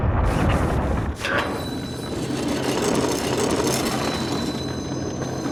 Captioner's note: tires squealing